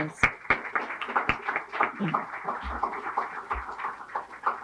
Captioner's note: audience clapping